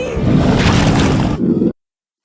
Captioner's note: dragon roars